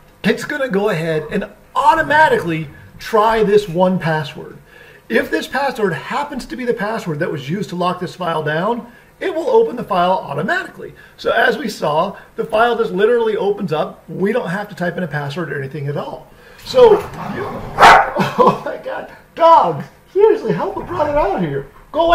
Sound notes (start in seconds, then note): 17.7 dog barking